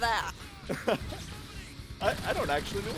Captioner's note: laugh; laughs